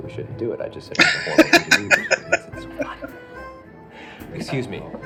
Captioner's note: laughing